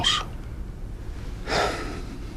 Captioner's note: sighs